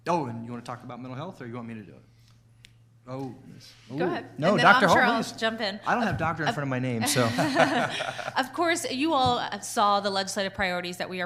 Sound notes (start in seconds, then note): 7.0 chuckling